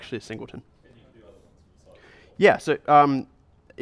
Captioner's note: voiceover